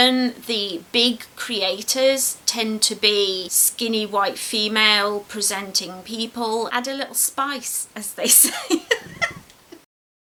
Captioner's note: laughs